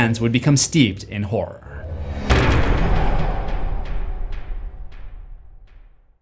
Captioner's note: impact